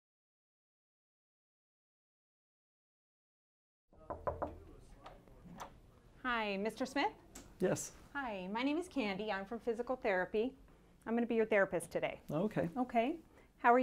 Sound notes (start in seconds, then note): 4.0 knocking